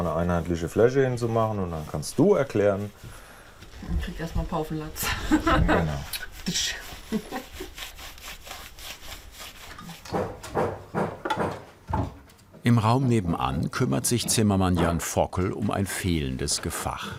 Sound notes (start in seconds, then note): 3.8 laughs; 9.9 hammering